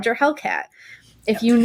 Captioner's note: laughter